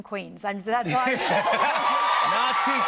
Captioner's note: laughter and applause